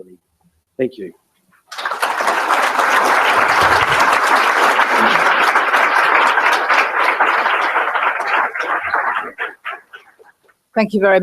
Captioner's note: applause